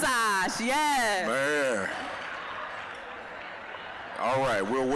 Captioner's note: applause